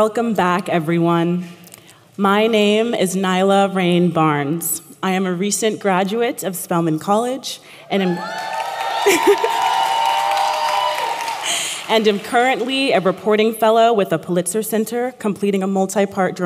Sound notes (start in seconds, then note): 8.1 appplause